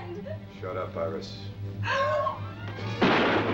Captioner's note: gun shots